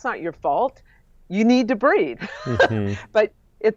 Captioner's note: laughs